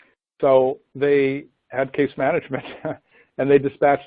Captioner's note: laughs